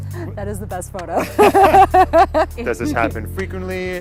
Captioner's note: laughs